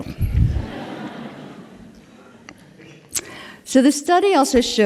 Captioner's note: laughter